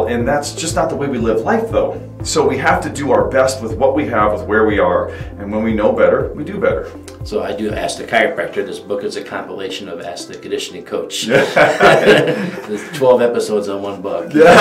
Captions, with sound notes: and that's just not the way we live life though. So we have to do our best with what we have, with where we are. And when we know better, we do better. - So I do "Ask the Chiropractor," this book is a compilation of ask the conditioning coach. (laughing) There's 12 episodes on one book.